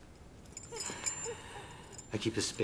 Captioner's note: keys jingling